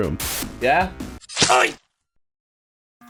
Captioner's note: stab noise